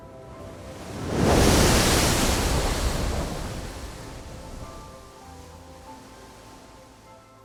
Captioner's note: splashing sound of ocean water